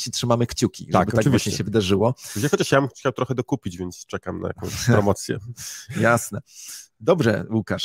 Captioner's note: laugh